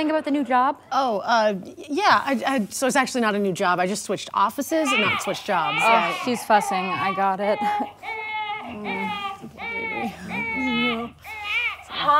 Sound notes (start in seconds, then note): 5.2 baby crying; 7.9 baby crying